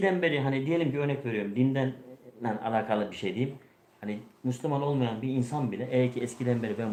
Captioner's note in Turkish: none